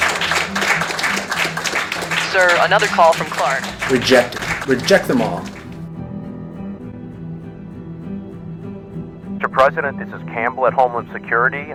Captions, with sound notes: - [female voice on intercom] Sir. Another call from Clarke. - Reject it. Reject them all (suspenseful music playing) - [male voice on intercom] Mr. President. This is Campbell at Homeland Security.